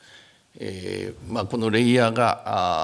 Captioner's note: speaking japanese